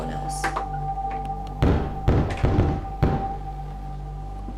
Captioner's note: loud Knocking